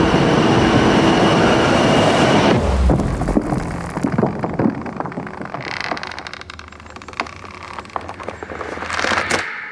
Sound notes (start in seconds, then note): 0.1 music intensifies; 2.5 eerie music; 3.3 rope creaks